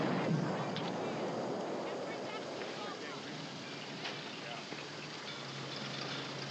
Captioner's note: explosion in distance